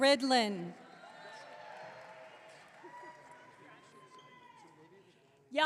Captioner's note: audience clapping